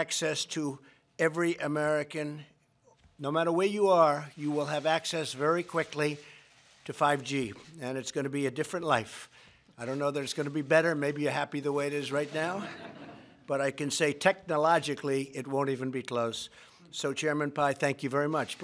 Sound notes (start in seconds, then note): 12.6 laughter